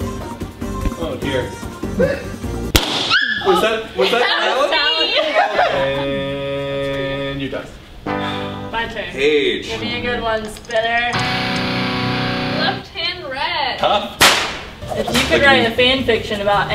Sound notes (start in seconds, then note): 3.1 squeaky yelp noise; 7.4 exhales; 11.1 electric guitar